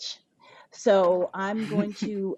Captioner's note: laughs